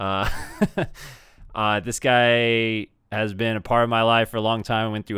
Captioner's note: laughs